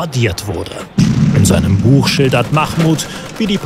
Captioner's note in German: Knall